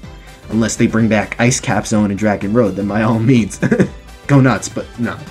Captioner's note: chuckles